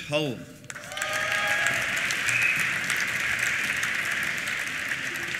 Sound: applause; cheers

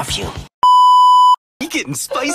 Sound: static beep sound

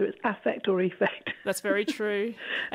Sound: laughs

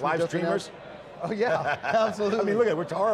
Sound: laughing

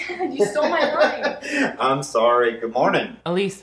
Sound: laughs

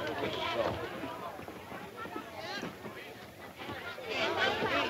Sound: patrons chatting

